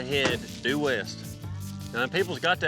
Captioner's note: claps hands